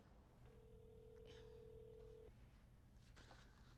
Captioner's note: phone ringing